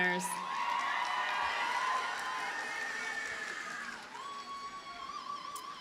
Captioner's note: audience cheers and applauds